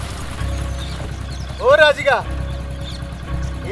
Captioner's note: bike idling